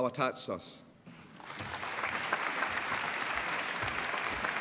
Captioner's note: applause